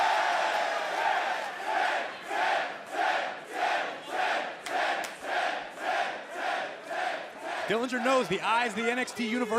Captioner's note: crowd cheering